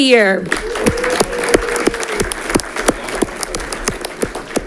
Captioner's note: audience clapping